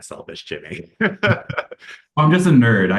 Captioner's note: chuckling